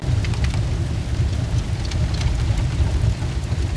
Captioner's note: fire burning